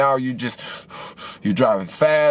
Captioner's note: breathing hard